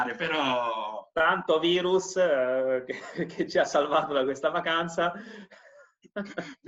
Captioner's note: laughing